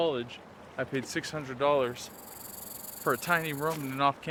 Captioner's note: snake hissing